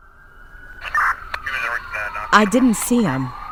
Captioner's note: sirens wailing